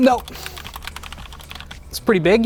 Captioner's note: keyboard clattering continues